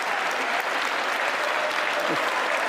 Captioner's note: applause